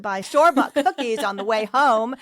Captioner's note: laughs